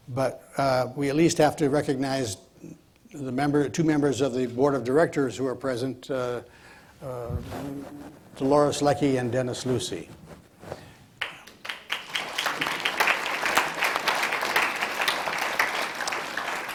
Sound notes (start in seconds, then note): 11.2 audience applauds